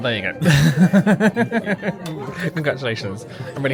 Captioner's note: laughs